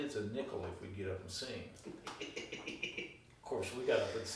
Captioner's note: laughing